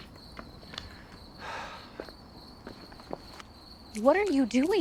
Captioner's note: Peter sighs